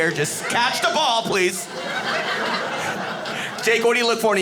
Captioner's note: audience laughing